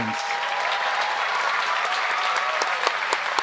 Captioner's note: applause